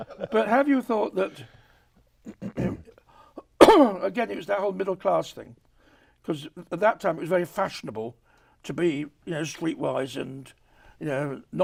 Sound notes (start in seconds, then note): 0.0 laughs; 2.2 coughs